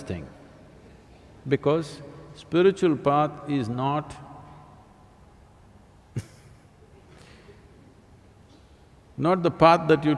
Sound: laughs

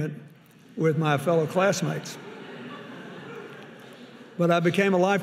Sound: audience laughing

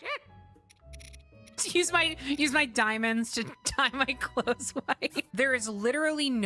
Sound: laughing

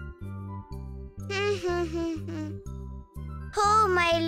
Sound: humming

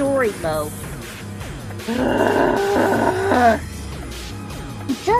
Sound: irritating moan

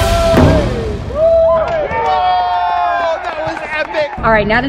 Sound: cheers

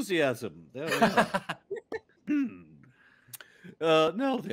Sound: laughing

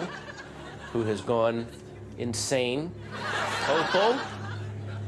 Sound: audience laughter

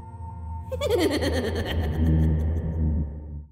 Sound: creepy laughing

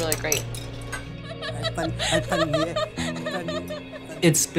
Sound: diner laughing

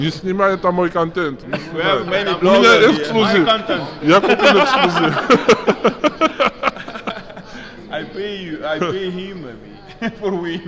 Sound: in Russan

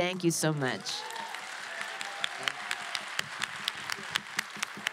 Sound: applause

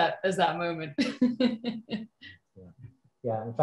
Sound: laughs

